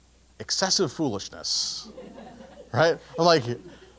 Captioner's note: laugh